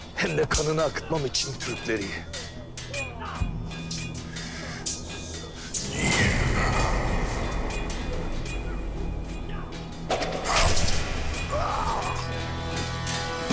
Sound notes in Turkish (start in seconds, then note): 2.4 Dövüş Sesleri